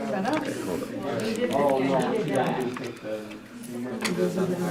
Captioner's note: background chattering